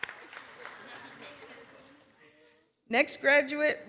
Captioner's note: applause